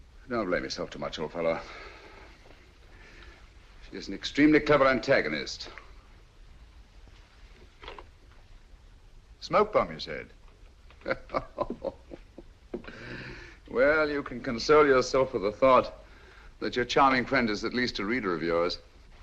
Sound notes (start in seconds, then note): 11.0 giggling